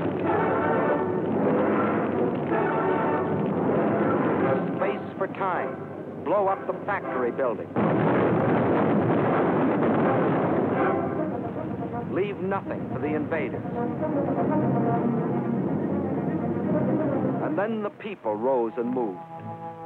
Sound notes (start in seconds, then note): 7.7 explosion